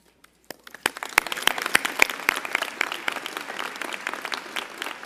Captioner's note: applause